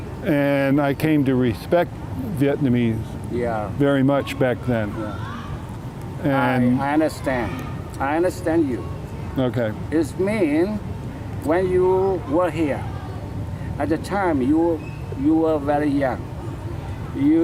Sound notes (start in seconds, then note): none